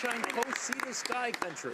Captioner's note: some Applause